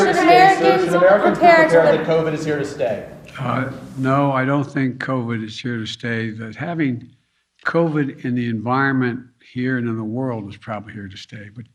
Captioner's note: yelling